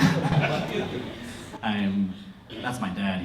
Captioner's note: heckle from the crowd